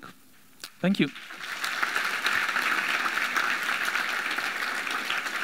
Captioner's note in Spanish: aplauso de la audiencia